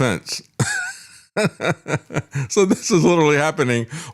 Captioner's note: laughs